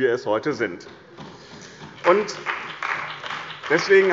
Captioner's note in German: Beifall bei dem BÜNDNIS 90/DIE GRÜNEN und der CDU